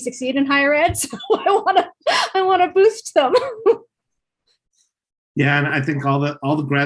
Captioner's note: laughs